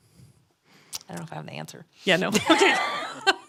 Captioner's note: laughs